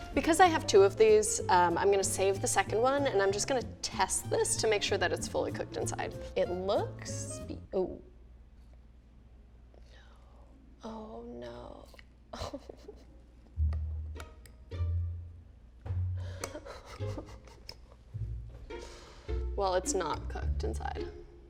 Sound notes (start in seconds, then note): 12.3 sobbing; 15.4 lighthearted music